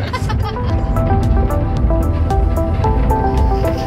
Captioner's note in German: dumpfes tiefes Grollen